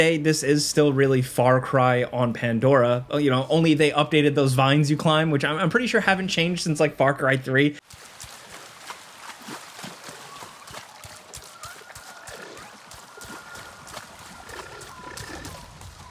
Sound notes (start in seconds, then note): 7.8 water splashing; 12.9 animals calling